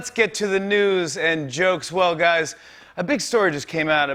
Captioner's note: none